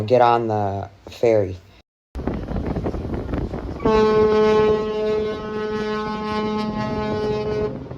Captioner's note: ship horn